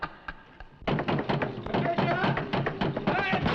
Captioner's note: door thudding